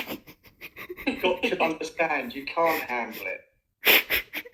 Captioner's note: laughter; laughter